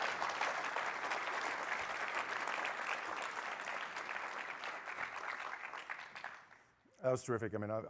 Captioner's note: applause